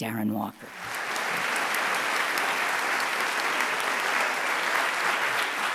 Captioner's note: audience applauding